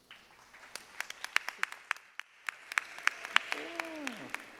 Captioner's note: audience applauding